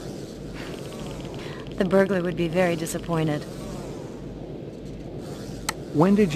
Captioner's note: scoffs